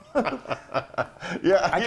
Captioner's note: laugh